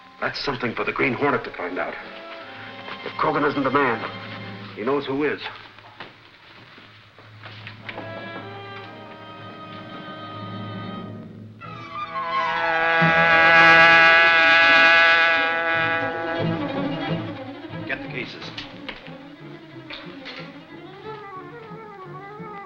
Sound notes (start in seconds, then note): 8.2 dramatic music; 12.5 hornet buzzing